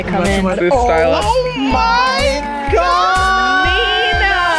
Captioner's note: girls exclaiming